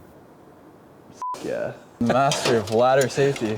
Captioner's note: beep